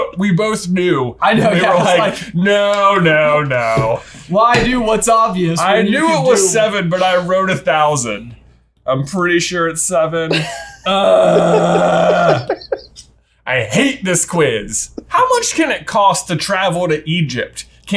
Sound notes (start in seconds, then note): 10.2 laughing; 10.8 groans